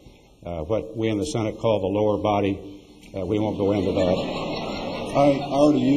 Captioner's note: laughter